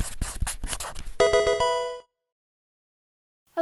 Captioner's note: marker scratching; electronic video game chime